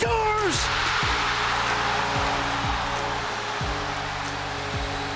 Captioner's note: crowd cheering wildly